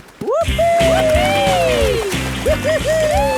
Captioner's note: both whooping